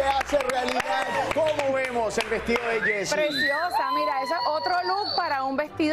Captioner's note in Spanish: aplausos